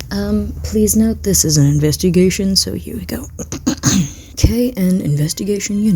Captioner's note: coughs in Taekook